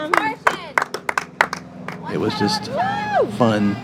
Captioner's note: group clapping